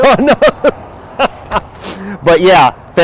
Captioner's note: laughs